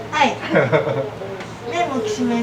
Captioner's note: chuckles